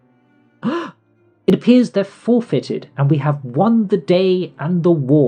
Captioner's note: gasp